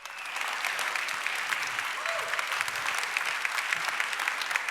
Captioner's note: audience applauds